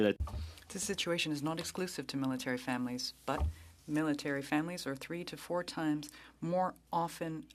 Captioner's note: speaking French